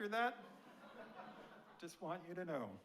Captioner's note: audience laughing